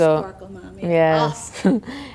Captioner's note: laughter